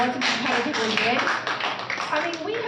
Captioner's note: applause